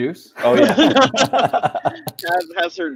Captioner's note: laughing